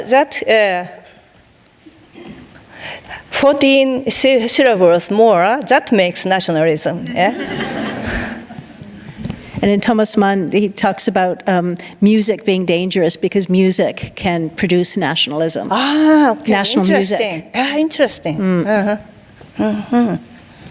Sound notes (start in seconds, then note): 7.1 audience laughing